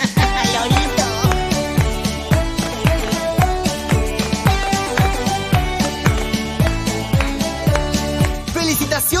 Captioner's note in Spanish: Palmas